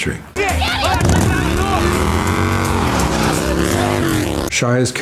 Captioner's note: Shia and Harrison shouting; bike engine revving